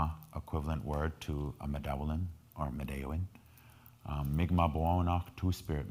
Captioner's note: speaking in foreign language